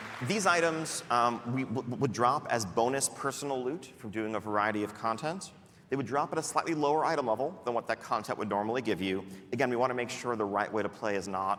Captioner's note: applause